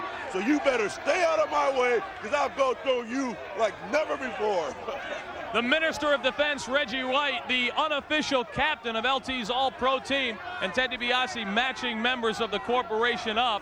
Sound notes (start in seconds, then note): 4.7 chuckles